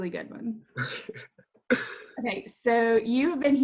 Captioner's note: laughs